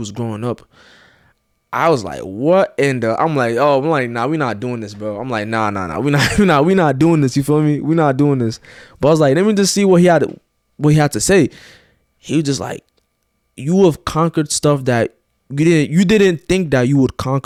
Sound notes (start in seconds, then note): 6.0 chuckles